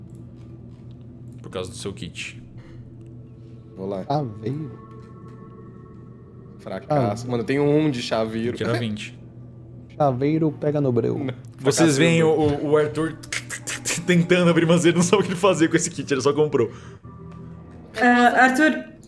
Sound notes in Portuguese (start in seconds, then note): 13.4 tck tck tck